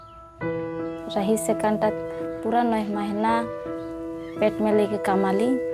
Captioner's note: speaking in foreign language